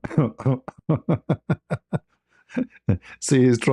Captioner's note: ketawa